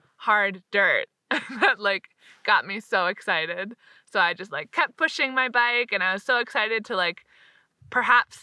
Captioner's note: laughs